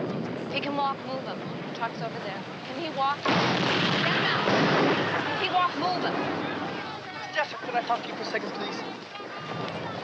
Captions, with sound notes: If he can walk, move him. Trucks over there. Can he walk? (explosions) Get him out. He can walk, move him. - Jessup, can I talk to you a second please?